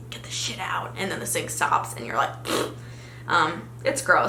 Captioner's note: farting noise